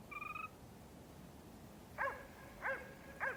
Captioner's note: dog barking